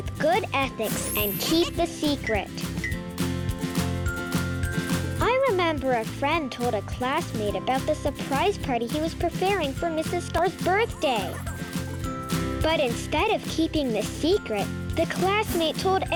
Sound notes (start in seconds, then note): 0.7 planet laughing and clinking; 11.4 Mrs. Star chattering